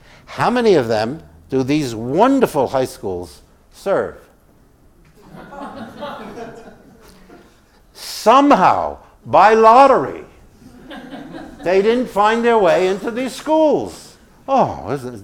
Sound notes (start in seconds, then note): 4.3 laugh